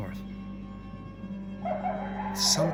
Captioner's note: dogs barking